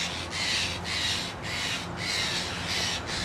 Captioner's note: crows caw